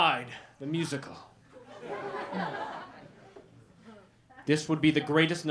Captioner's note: laughter